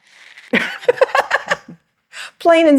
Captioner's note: laughs